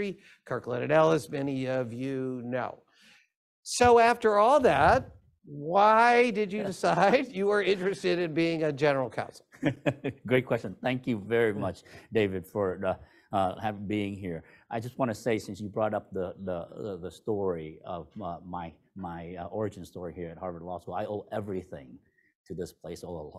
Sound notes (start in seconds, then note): 9.5 laughter